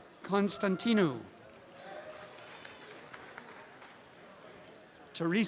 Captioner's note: background audience chatter; applause and cheering